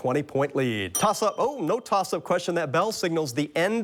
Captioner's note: bell dings